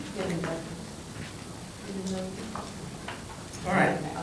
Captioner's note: indistinct chatter